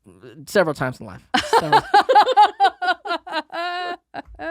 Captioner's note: both laughing